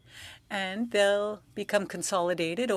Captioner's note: speaking French